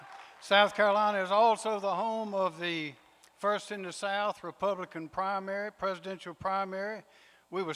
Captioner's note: applause